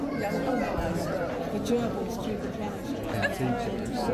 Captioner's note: crowd chattering